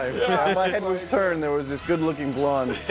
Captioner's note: laughter